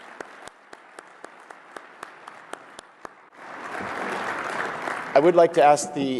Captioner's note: applause